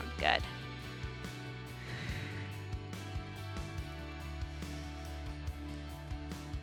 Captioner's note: upbeat music continues; exhaling